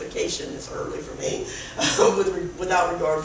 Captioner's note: laughs